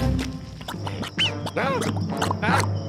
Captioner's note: quicksand bubbling